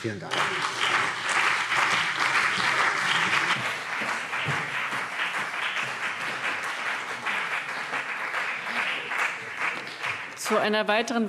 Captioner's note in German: Beifall BÜNDNIS 90/DIE GRÜNEN und CDU